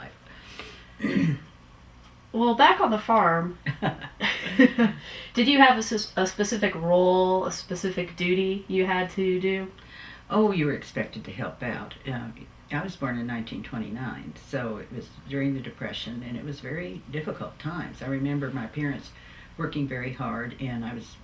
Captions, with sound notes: Well back on the farm, (Laughter) did you have a specific role, a specific duty you had to do? Oh, you were expected to help out. I was born in 1929 so it was during the Depression and it was a very difficult time. I remember my parents working very hard and I was